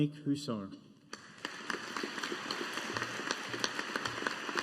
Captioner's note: audience applauding